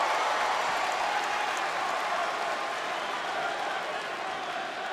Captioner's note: crowd cheering